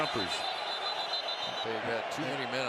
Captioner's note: whistle